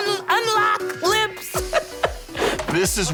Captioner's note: laughing